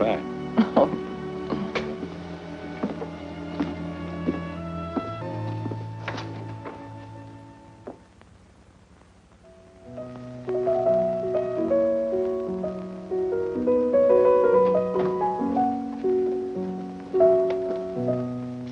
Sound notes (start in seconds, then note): 0.5 chuckles; 9.4 melancholy piano music